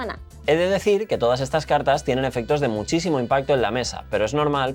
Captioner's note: none